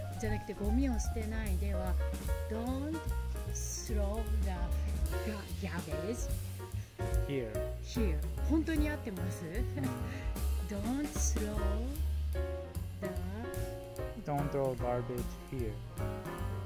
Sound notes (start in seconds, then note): 8.6 英語